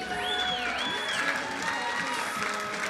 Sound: crowd cheering

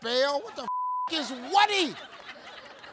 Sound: beep

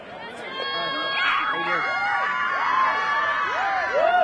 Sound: audience cheering

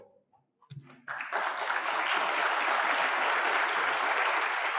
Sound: audience clapping

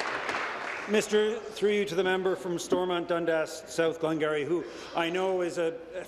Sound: applause

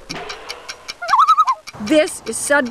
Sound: loon call

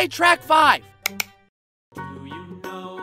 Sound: click-click

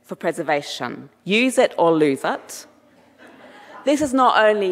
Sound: audience laughing

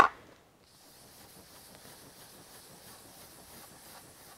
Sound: brush strokes

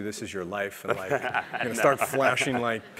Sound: laugh

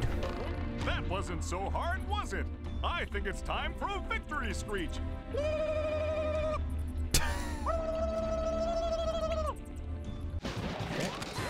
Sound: laughs

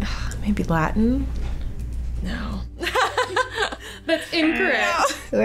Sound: laughing

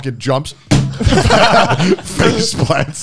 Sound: all laughing

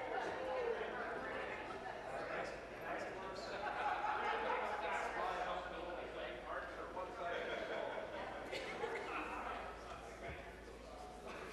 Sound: conversation din

